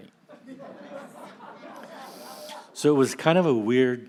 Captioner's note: audience laughs